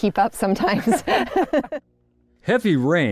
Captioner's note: laughter